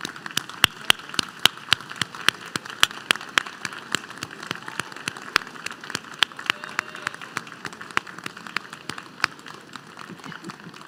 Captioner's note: applause